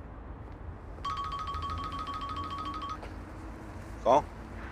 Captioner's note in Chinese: 電話鈴聲